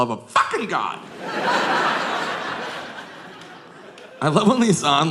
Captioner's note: audience laughing